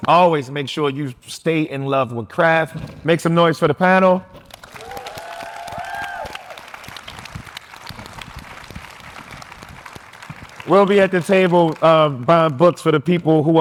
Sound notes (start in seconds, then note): 4.5 audience applauding